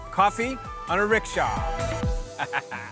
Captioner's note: chuckles